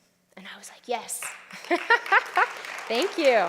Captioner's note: applause